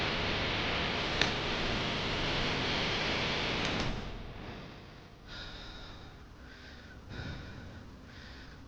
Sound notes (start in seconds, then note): 5.3 gasps